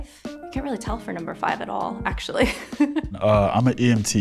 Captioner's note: laughs